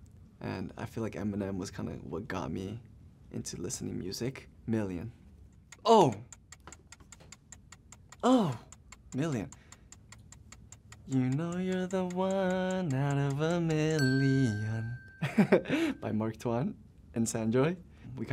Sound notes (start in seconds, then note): 6.3 timer ticking; 13.9 bell rings; 15.2 chuckles